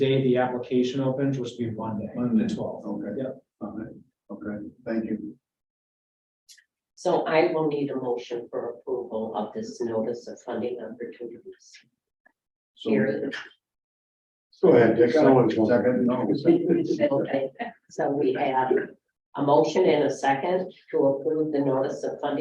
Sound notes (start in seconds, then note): 16.3 laughter